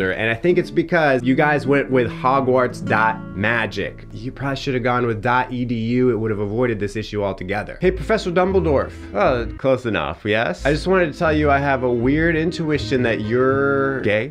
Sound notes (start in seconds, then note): none